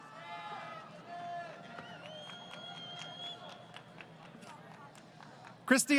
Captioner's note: crowd Cheering